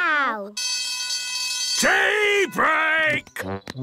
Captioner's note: alarm ringing